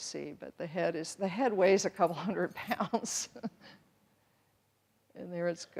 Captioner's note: chuckles